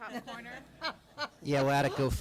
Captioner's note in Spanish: risas